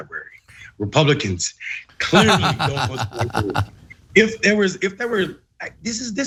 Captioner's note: laugh